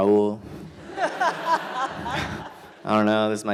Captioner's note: audience laughter